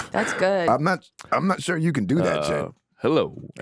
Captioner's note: laughs